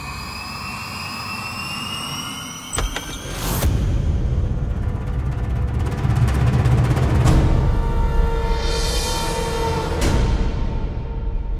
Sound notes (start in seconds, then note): 2.7 door opening; 4.8 drum roll